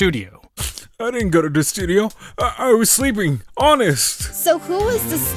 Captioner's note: sniff!